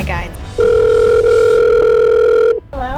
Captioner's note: phone ringing